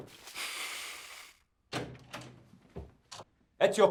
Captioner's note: Josip sighs